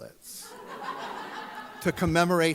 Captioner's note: audience laughs